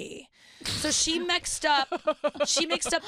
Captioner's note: laughing